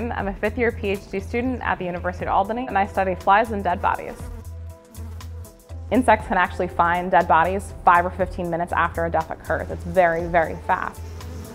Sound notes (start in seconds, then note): 2.9 sound of flies buzzing; 11.3 sound of flies buzzing